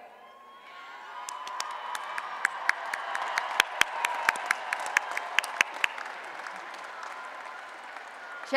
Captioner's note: applause and Cheering